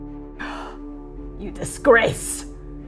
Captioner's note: frustrated exhaling